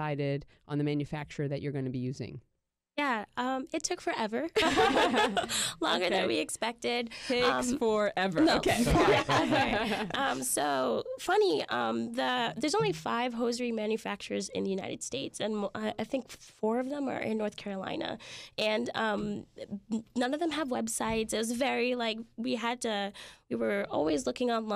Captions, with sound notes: the manufacturer that you're gonna be using? - It took forever. (group laughs) Longer than we expected. - Takes forever. (group laughs) - Funny, there's only five hosiery manufacturers in the United States, and I think four of them are in North Carolina. None of them have websites, we were always looking online